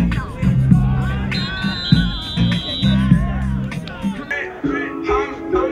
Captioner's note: whistle blowing